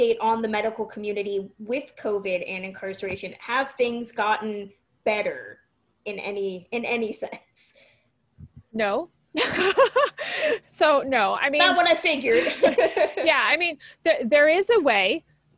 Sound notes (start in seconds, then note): 9.4 laughs; 12.2 laughs